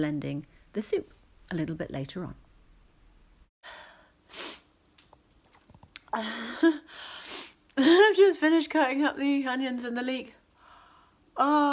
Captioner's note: sniff